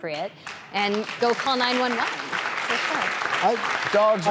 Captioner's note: applause